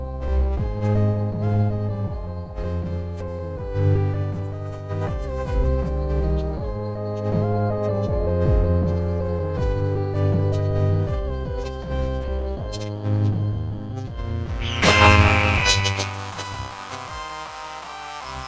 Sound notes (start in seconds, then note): 14.6 bird screeching